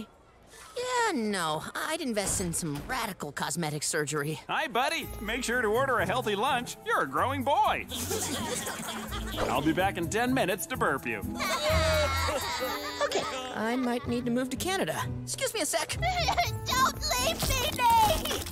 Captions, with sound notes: Yeah. No, I'd invest in some radical cosmetic surgery. Hi, buddy. Make sure to order a healthy lunch. You're a growing boy. I'll be back in ten minutes to burp you. [laughing] Okay, I might need to move to Canada. Excuse me a sec. [crying] Don't leave me, Nate.